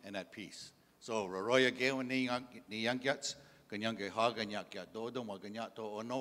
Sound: in English; in Indigenous language

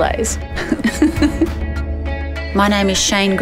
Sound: laughs

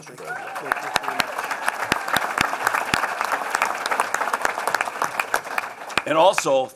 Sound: applause

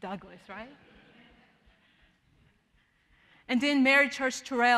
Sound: audience laughing

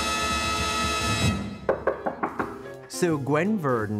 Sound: knock on door

